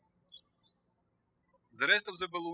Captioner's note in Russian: птички щебечут